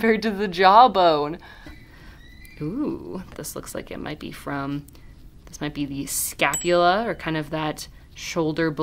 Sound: ding

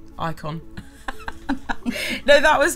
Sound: both giggling

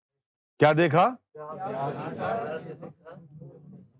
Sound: audience repeats

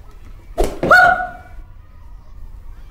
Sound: scream

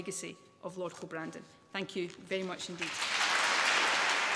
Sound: applause

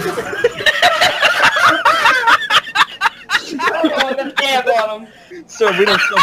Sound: laughter

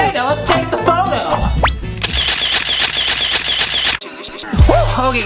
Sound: camera clicks

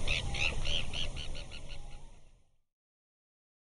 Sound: bird tweeting

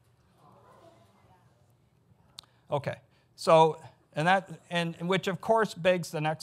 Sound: audience gasps and murmurs

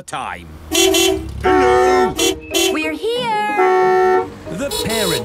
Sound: beeping

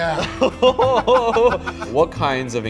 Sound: laugh

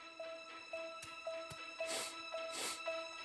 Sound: sniffing

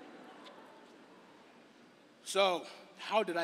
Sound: laughter

